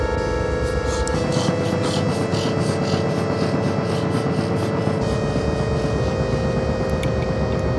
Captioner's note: Frog hyperventilating